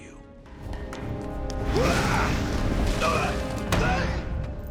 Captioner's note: grunting